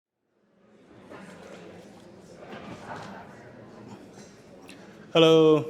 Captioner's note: attendees faintly speaking